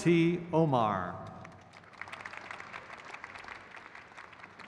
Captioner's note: crowd cheers